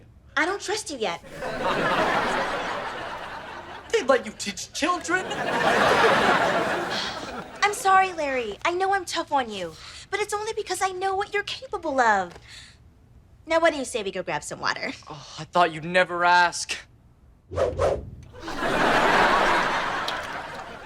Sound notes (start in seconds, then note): 1.2 audience laughter; 18.3 audience laughter